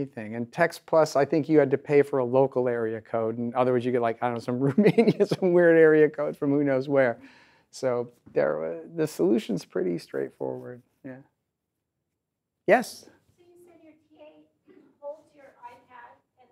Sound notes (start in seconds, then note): 4.7 laughs; 13.5 voiceover